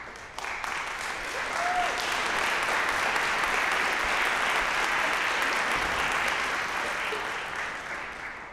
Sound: applause

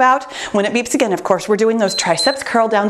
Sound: timer beeps

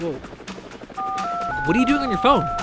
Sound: phone dialing

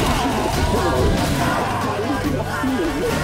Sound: men scream; henchman groans

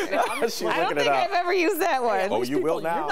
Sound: laughter

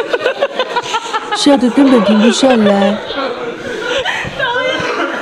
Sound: can't stop laughing

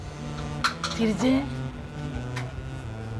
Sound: Amma speaks to her mother in malayalam

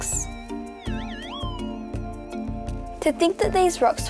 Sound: device beeps

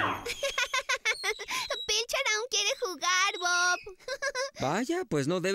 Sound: giggling

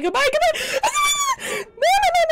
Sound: shrieks

